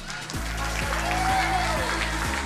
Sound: crowd cheering

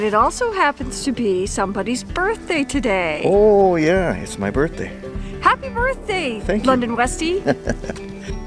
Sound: chuckles

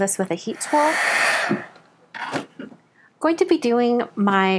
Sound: heat tool whirring

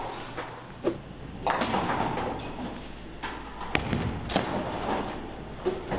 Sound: pins clattering

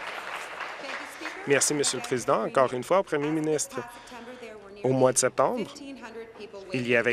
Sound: applause

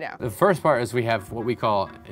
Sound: none

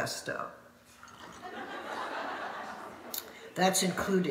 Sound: audience laughing

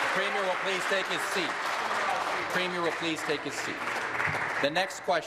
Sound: applause

